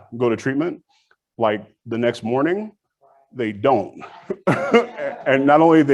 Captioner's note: laughs